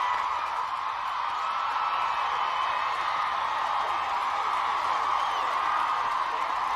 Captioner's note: inmates cheering